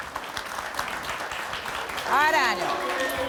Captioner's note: clapping and booing